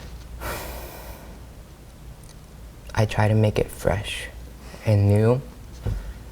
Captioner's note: sighs